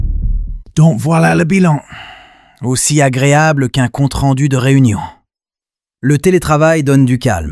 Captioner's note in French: soupir